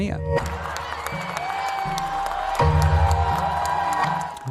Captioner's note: crowd cheering